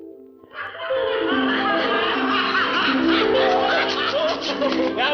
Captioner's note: laughing